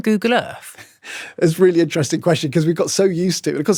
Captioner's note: chuckles